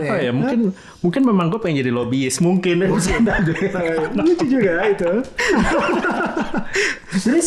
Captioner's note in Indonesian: tertawa